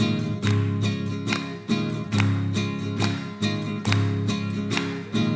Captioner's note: performers clap rhythmically